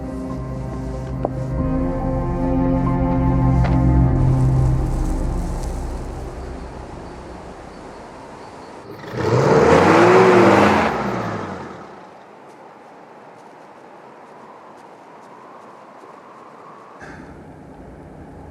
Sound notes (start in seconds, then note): 5.2 music fades; 9.1 engine rumbling; 11.9 wind whistling